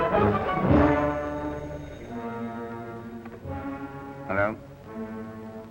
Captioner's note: phone rings